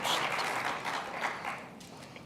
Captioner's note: applause